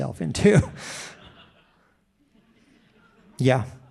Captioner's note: audience laughing